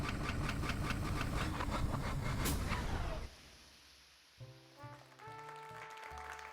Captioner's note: machine Whirring Up; machine Breaks Down